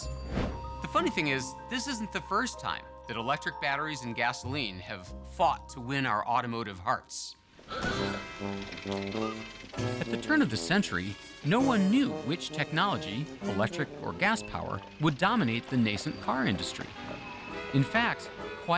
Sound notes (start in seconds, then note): 9.1 car horn honking